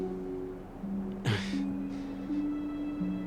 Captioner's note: chuckles